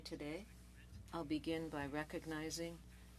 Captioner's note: speaking French